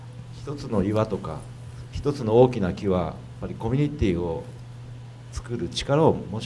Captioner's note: speaking foreign language